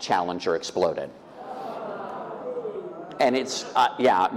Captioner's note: audience oohing